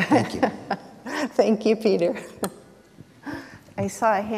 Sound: chuckles; chuckles

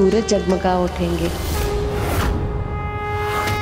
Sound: conch blows

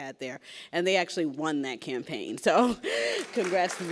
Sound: laughs

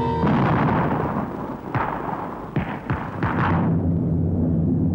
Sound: artillery exploding

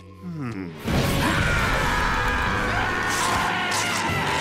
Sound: screaming

